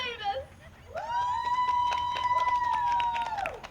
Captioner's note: the audience cheers